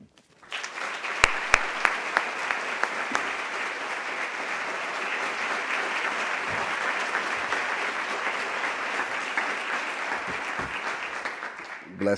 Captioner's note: applause